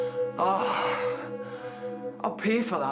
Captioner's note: sighs